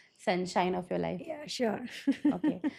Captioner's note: chuckles